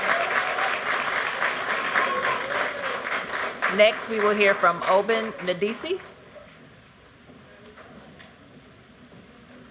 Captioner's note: cheers and applause